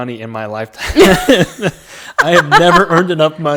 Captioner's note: laughing